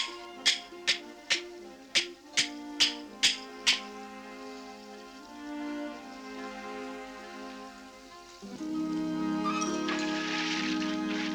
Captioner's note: hammering